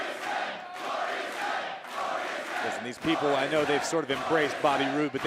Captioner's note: fans chanting